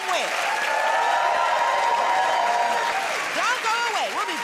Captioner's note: cheers and applause